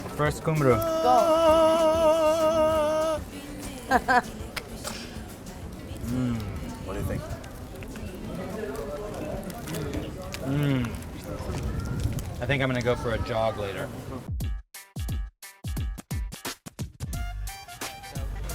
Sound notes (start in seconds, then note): 3.8 laughter